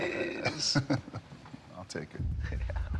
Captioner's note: laugh